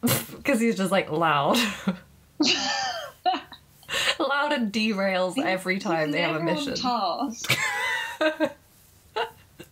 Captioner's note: laughing